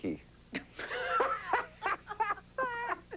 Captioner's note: laughing